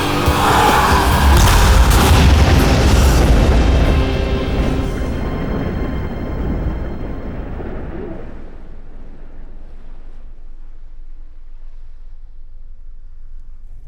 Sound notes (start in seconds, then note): 6.7 explosion